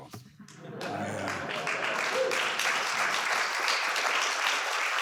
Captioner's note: audience laughs and applauds